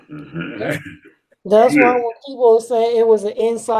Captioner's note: chuckles